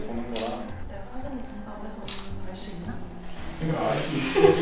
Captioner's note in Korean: 찰칵